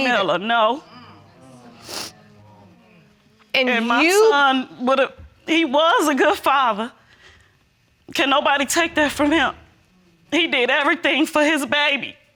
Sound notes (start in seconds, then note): 0.8 audience murmuring; 2.3 sniffles